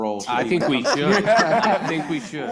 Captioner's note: panelists laughing